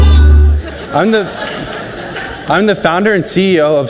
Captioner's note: audience laughs